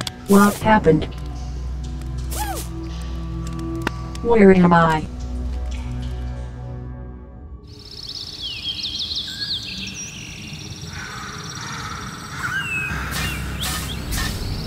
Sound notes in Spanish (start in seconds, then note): 7.6 Sonidos de naturaleza; 13.0 Pasos animatrónicos